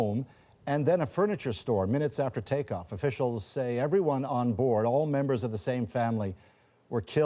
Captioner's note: speaking alternate language